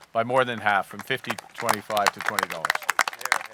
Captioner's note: applause